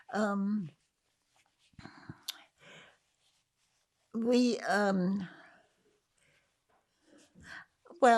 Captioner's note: pauses 8 seconds